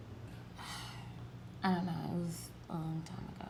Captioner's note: sighs